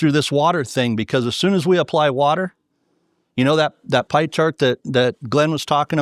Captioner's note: none